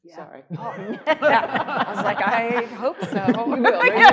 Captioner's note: panelists laughing